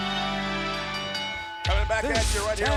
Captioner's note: ring bell clanging